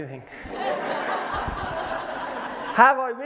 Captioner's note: laughter